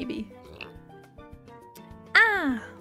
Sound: slurp

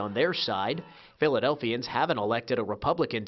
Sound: cheers and applause

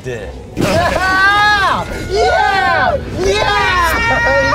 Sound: yelling

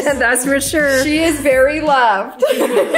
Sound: laughs

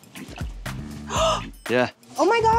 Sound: gasps

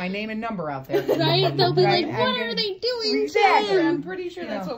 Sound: laughs

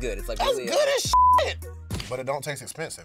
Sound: beep

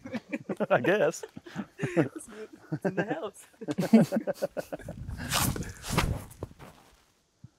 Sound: laughs

